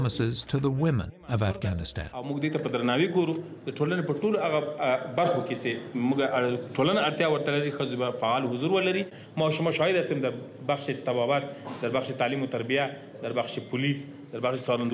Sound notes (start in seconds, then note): 2.8 speaking Pashto; 10.5 speaking Dari